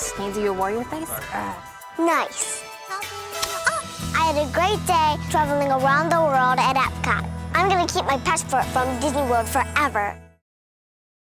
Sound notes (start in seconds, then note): 1.9 grrrr; 2.9 kiss